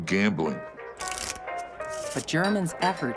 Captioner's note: cards shuffling